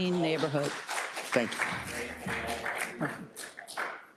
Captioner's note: attendees applauding